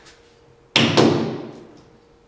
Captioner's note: hammering